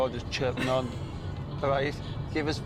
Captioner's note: Anna laughing